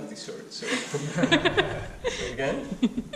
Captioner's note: laughing